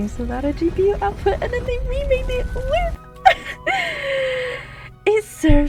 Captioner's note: inhale